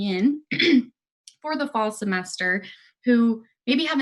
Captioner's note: clears throat